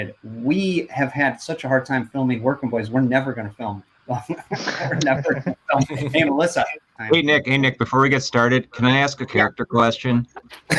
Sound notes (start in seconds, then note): 4.2 chuckles